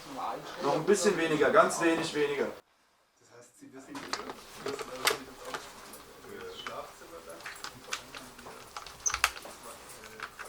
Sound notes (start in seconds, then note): 3.7 quiet speaking, clattering